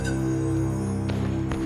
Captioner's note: muskets fire